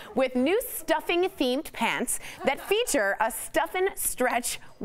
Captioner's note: laughter